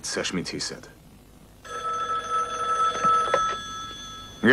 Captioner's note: phone rings